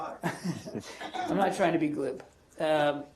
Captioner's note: laughter